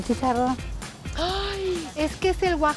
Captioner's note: Pati gasps